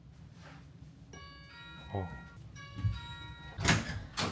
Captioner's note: ding-dong